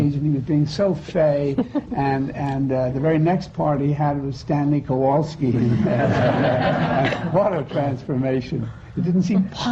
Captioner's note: laughter